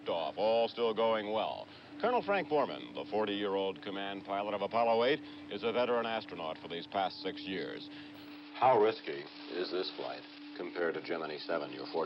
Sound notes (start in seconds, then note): none